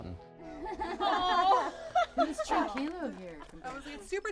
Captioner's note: laughing